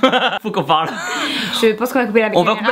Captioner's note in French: Rires